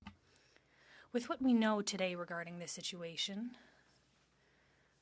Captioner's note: speaking French